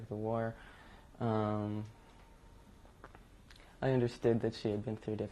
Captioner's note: pauses for 3 seconds